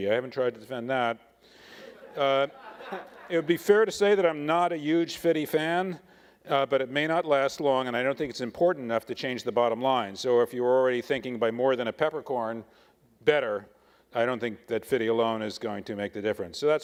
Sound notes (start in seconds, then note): 1.8 attendees laughing